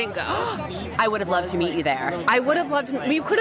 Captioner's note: gasp